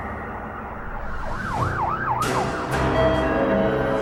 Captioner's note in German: sirenen